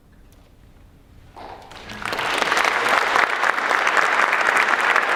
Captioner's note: applause